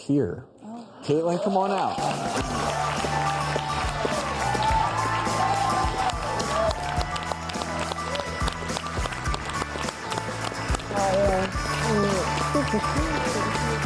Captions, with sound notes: Oh wow. Caitlin come on out. (audience cheers) (upbeat music)